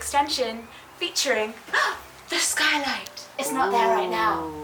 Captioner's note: gasps